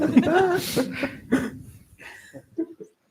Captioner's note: laughter